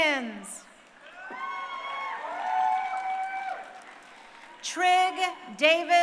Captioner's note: crowd cheering